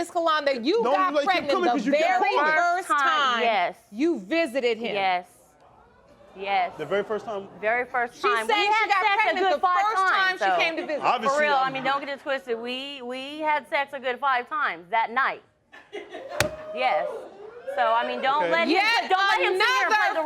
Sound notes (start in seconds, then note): 6.4 crowd reacting; 16.5 crowd laughing and cheering